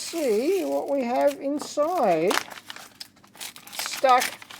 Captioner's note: paper rustling